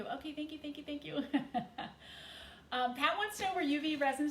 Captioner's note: chuckles